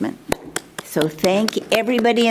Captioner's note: clapping